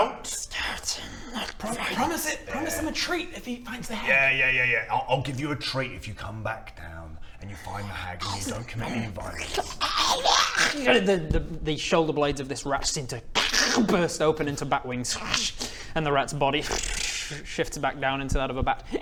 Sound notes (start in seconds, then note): 15.3 ssschssk